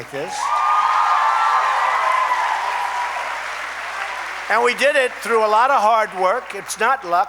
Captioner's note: applause